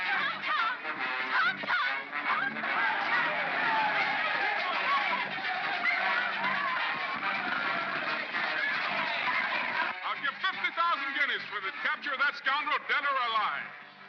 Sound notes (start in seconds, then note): 2.6 crowd clamors; 2.6 dramatic music